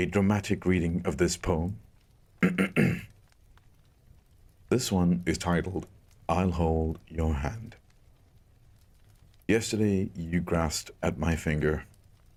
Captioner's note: ahem